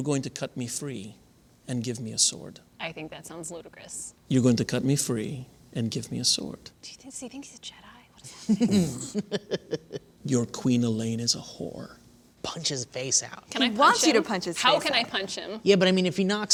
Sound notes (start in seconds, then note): 8.2 laughter